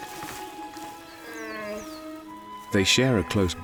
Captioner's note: cub whines